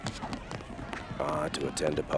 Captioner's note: none